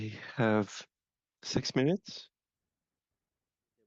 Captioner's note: speaking French